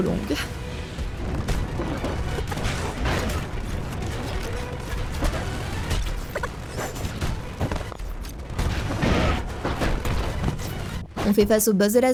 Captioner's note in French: bruit du jeu en accéléré